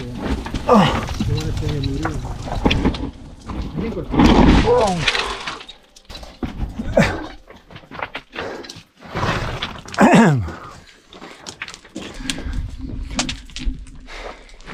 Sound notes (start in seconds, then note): 5.2 groaning; 9.9 clears throat